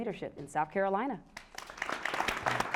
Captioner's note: applause